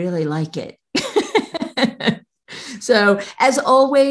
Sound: laughs

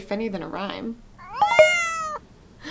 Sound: cell-phone: cat's meoow jingle

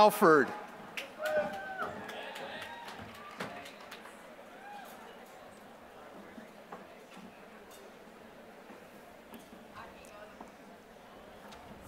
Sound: applause

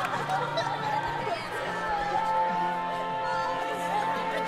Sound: crowd talking; laughing

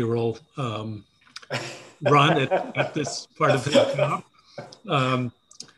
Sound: muffled by laughter

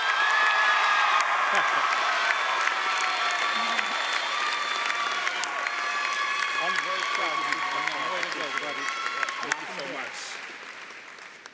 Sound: cheering & Applause

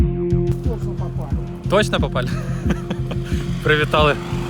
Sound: laughter

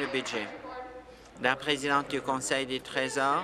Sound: applause

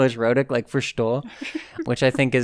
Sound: laughs

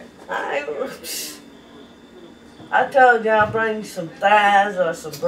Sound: scoffs

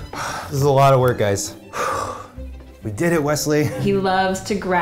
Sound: sighs; sighs

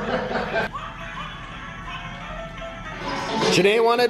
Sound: laughter

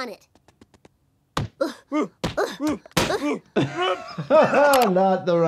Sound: Bart and Homer grunting

